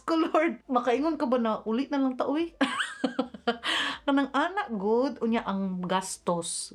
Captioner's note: laughs